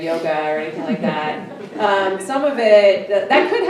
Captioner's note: everyone chuckling